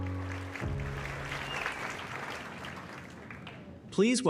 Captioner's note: applause